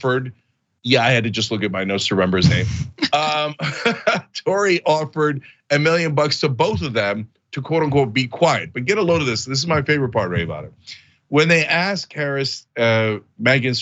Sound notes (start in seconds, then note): 2.3 laugh